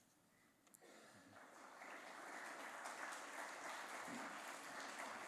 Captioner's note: applause